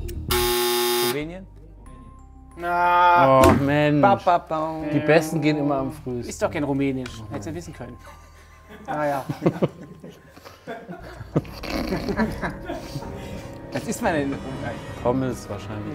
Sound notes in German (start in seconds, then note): 10.0 Lachen hinter der Kamera; 11.6 Belustigte Laute